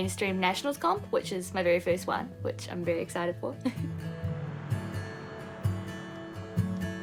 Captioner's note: giggles